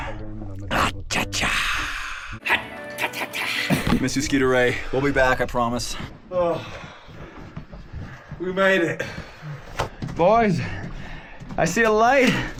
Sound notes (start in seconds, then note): 8.4 hand smacks